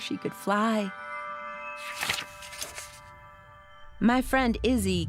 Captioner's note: turning page